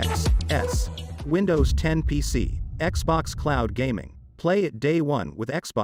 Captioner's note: dramatic sound